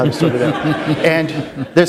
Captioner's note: laughter